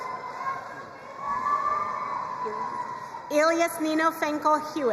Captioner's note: crowd cheering and applauding